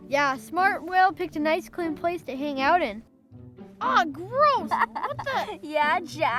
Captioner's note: laughs in background